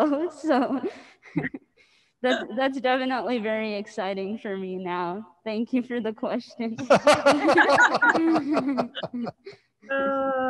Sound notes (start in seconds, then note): 1.3 laughs; 6.8 panelists laughing